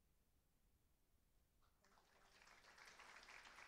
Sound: applause

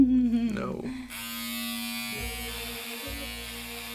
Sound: hair clippers buzzing

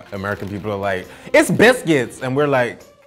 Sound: imitates American accent

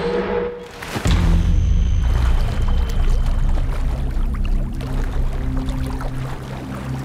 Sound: light dramatic music; water splashing

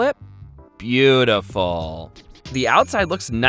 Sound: bell dings

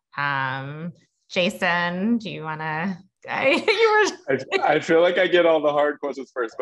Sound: laugh

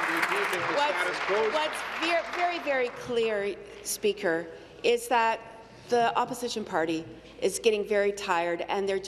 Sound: applause

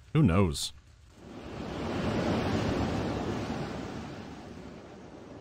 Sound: gust of wind

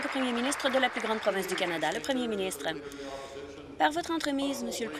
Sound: applause

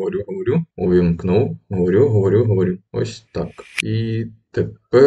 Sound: speaking

